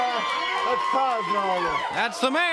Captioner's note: crowd cheering